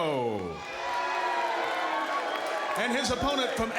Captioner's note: applause